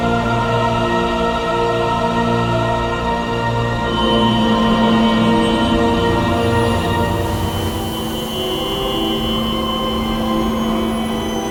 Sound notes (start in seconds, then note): 3.8 buzzing